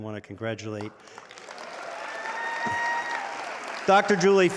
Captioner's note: audience applauding